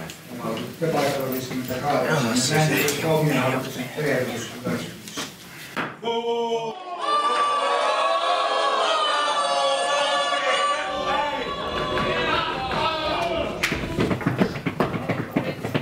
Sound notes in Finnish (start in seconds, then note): 7.6 Aplodeja